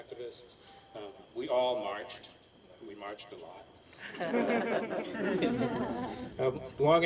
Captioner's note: laughter